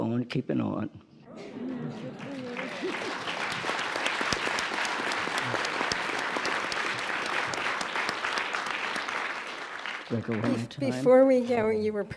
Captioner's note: applause